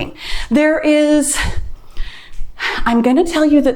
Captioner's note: sighs